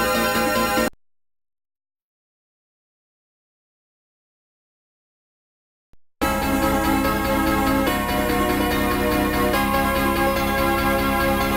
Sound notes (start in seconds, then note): 1.4 silence; 6.2 32-bit console startup music plays